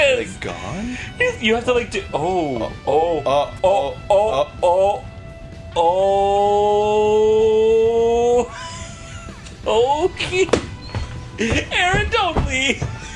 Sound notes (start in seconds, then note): 8.0 laughing